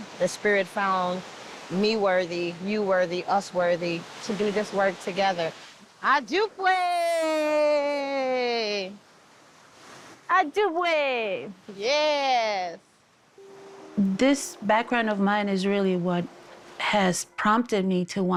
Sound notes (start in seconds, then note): 9.3 waves crashing; 10.5 speaks in foreign language